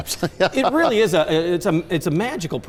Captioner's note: laughter